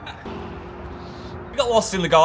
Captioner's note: vehicle rumbling